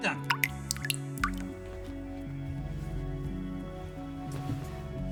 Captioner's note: faucet dripping